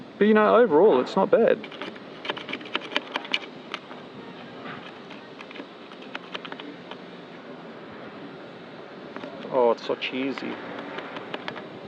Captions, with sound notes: But you know, overall it's not bad. (clanging) It's so cheesy.